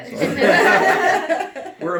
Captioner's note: laughter